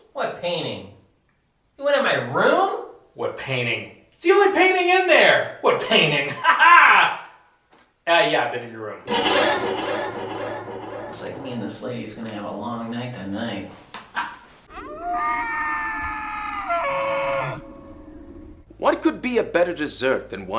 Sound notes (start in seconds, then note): 9.0 scary music; 14.7 animal howling